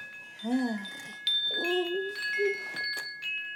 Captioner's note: murmurs